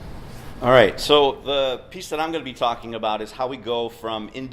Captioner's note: voiceover